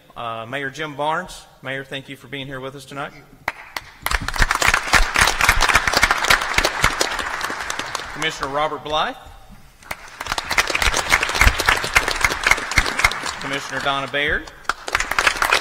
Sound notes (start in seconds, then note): 3.4 applause; 9.8 applause